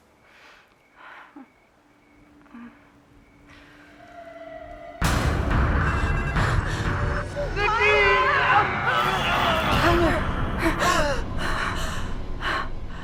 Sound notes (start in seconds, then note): 2.3 soft moaning; 4.9 intense music; 5.7 phone ringing; 7.6 screaming; 10.5 gasping